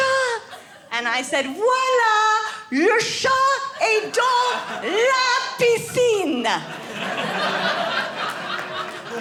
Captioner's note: speaks French